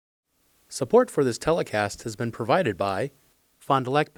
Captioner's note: voiceover